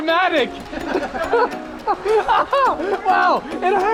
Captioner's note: laughing quickly